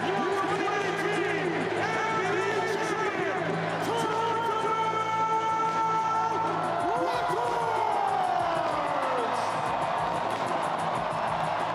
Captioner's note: cheering